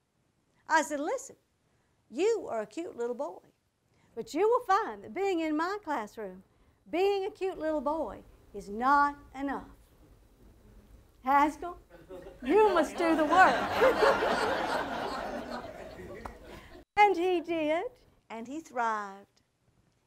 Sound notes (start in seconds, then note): 13.6 audience laughter